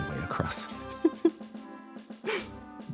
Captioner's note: little Laugh